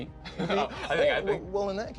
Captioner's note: laughs